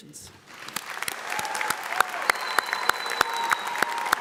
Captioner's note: audience applauds